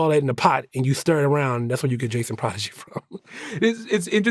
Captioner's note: chuckles